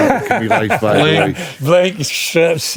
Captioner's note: laughing